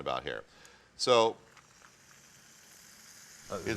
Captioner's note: pan sizzling